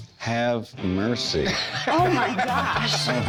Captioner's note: laughs